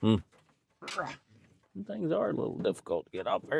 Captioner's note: grunts